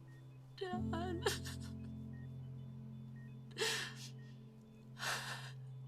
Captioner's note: crying